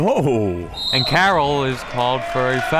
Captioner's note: whistle